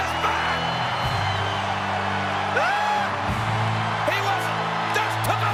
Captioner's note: audience cheers; ominous music continues